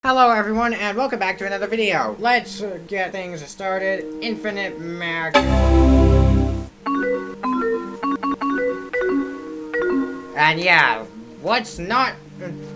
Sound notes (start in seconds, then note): 5.3 Macintosh Quadra boot chime